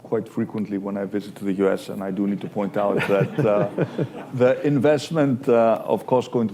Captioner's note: laughter